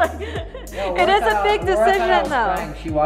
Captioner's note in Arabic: يضحك